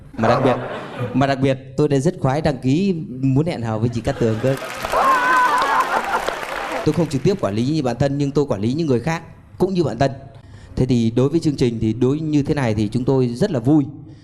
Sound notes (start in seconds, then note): 4.1 laughing; 4.2 applause